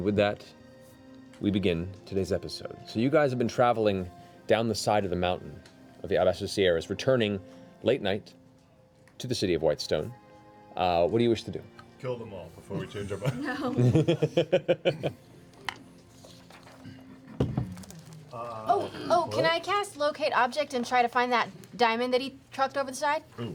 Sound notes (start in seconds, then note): 12.8 laughter